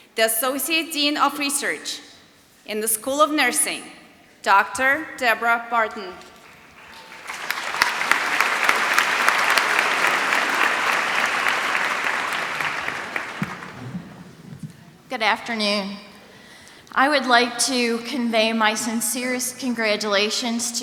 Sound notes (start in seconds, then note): 8.1 applause